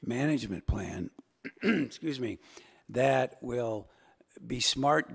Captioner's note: clears throat